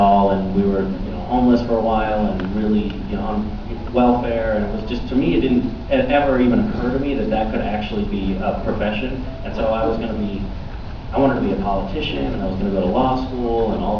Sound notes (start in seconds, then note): none